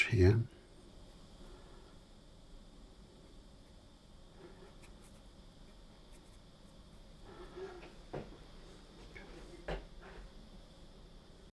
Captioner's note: silence